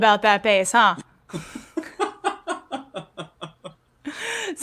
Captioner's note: laughter